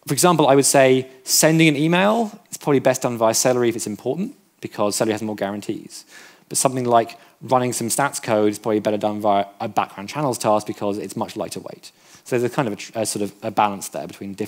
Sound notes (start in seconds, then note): none